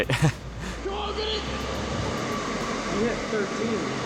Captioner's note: laughs; exercise bike whirs